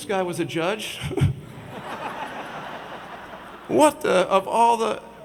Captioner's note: audience laughs